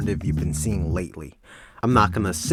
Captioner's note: breathes